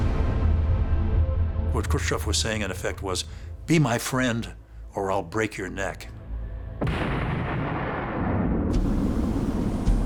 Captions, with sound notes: What Khrushchev in effect was saying was: "Be my friend or I'll break your neck." [explosion]